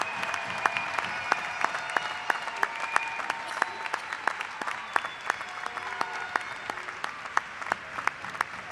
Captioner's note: applause